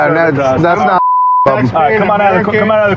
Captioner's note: chatttterer